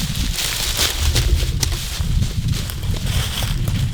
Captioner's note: leaves rustling